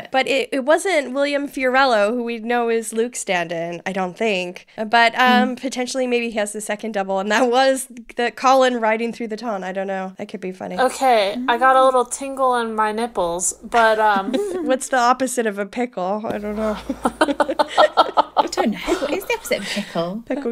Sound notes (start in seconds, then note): 16.5 laughing